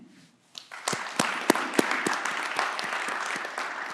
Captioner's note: clapping